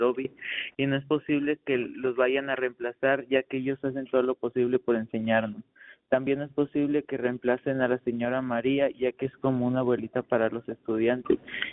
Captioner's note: speaking in spanish